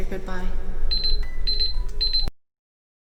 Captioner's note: beeping